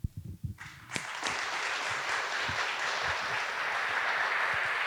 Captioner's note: audience applauding